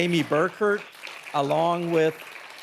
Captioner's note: audience applauding